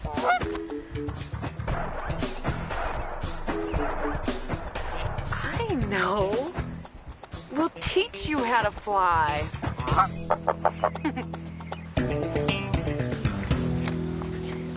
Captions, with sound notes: (goose quacks) - I know! We'll teach you how to fly! (goose quacks) (Dory chuckles)